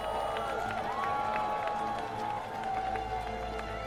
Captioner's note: crowd cheering